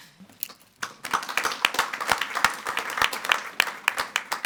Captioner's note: group clapping